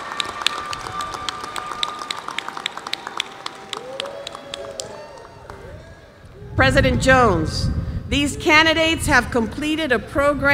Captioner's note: applause